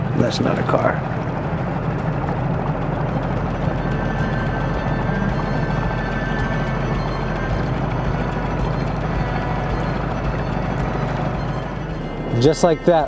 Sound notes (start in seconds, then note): 5.2 motor running; 5.2 soft dramatic music